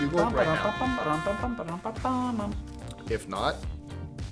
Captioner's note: imitates bugling